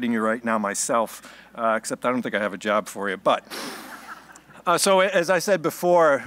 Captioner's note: laughing